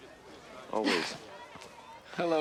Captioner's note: chuckles